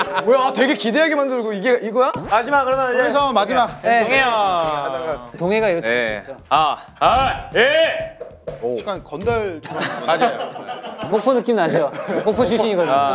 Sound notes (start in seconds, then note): 7.1 gives a shout of concentration